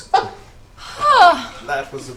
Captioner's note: sighs